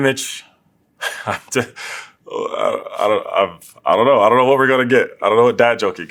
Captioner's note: laugh